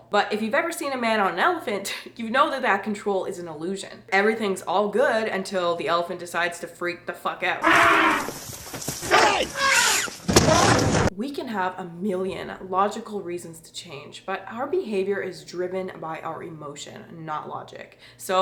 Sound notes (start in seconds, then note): 7.6 elephant trumpeting; 10.2 banging sound